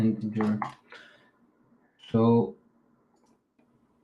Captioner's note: keyboard clacking